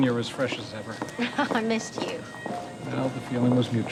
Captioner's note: laughing